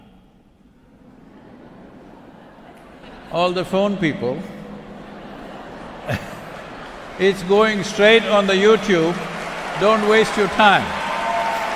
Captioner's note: applause